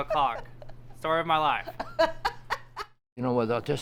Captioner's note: Dana laughing